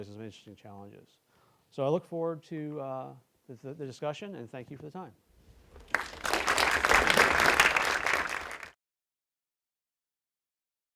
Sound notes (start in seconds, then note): 5.6 applause